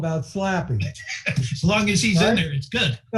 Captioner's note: laughing